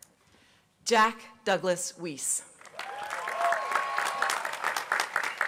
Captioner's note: applause